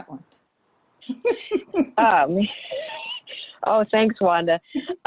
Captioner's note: laughs